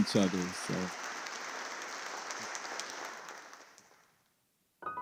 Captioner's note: audience clapping